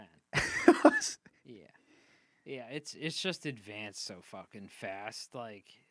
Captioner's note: laughing